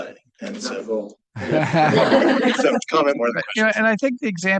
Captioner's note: laughter